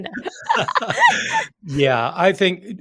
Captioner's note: laughing